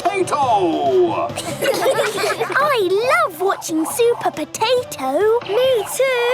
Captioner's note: children laughing